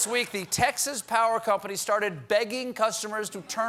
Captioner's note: laughter